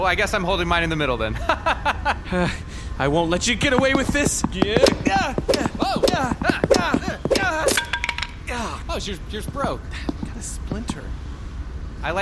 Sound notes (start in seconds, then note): 1.4 jovial laughter; 3.6 strained, rushed footsteps; 8.8 wood splintering and clattering on the floor